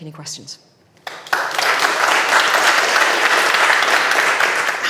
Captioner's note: audience clapping